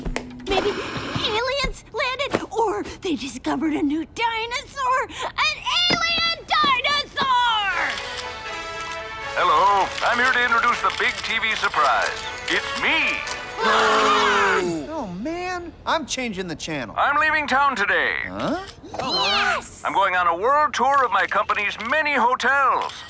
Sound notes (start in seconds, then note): 5.4 yells excitedly; 13.6 all groan